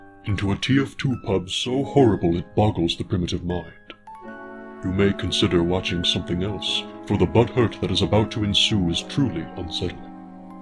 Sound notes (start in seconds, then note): none